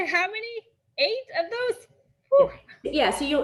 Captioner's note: gasps